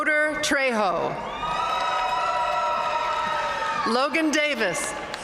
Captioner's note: audience cheering and applauding